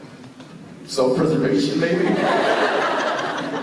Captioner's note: laughing